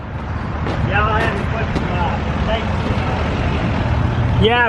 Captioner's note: men chattering